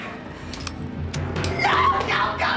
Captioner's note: gun clicking